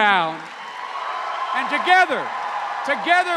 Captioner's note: cheers and applause